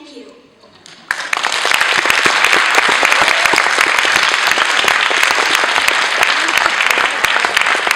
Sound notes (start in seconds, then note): 0.9 applause